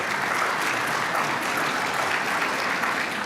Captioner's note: applause